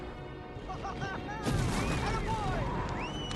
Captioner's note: pvt. krotoshinsky cheers